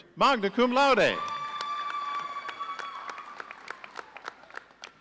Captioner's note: audience cheering